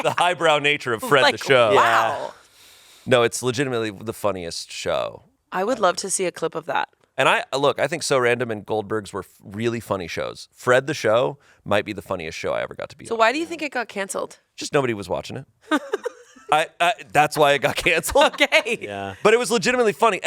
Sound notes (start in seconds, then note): 15.7 laughs; 17.8 laughs